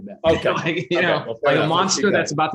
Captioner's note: laughs